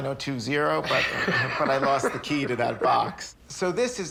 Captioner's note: laughs